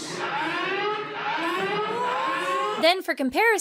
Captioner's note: alarm blaring